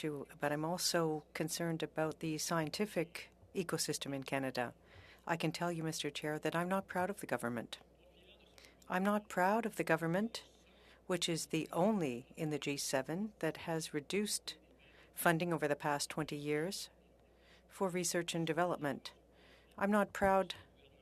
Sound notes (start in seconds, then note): 1.9 speaking French